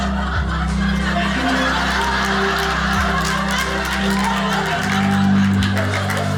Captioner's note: audience applauding